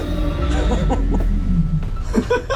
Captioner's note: frightened chuckle; both giggling